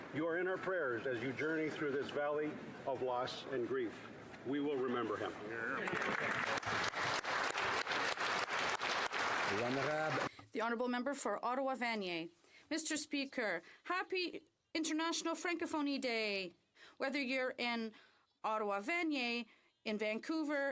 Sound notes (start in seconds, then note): 8.2 some Applause; 12.7 speaking French